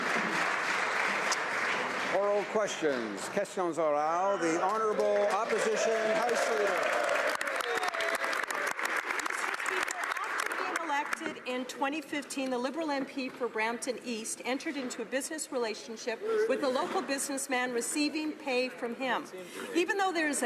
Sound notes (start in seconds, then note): 6.9 speaking French; 9.6 some Applause